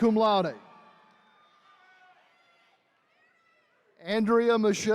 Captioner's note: attendees cheering